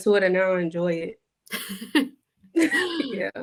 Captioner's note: laughs